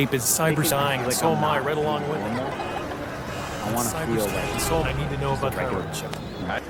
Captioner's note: New York sounds make it hard to hear Jack